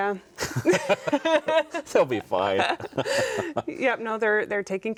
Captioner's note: both laughing